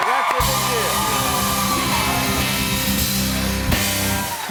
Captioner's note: cheers and applause